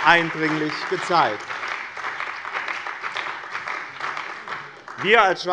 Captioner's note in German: Beifall bei dem BÜNDNIS 90/DIE GRÜNEN und der CDU